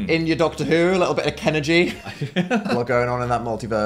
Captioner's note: Phil laughs